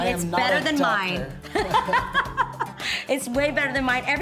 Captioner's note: laughing